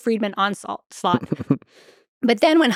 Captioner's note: Lex chuckles